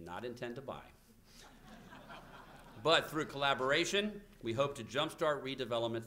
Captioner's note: laughter